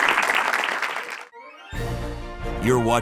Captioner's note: audience laughing and applauding; bright music